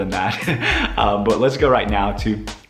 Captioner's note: laughs